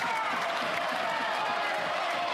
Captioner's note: applause